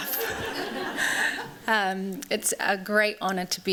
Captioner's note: laughter